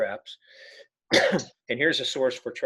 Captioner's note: coughing